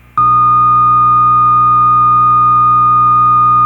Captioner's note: beeping